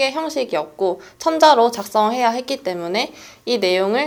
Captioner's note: Korean